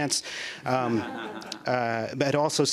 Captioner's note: laughter